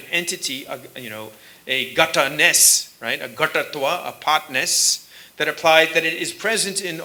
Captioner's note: sanskrit